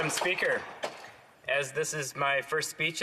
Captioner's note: some Applause